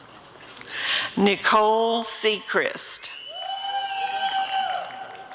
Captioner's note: applause and cheering